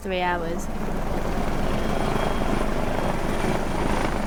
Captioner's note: helicopter whirring